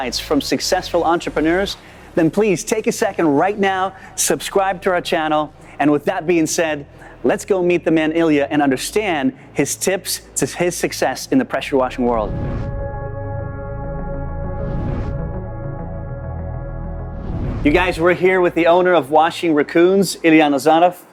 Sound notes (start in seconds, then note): 12.8 upbeat music; 14.7 air whooshing